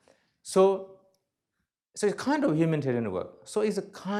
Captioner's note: none